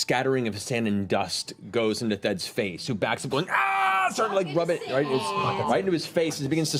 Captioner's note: pained yell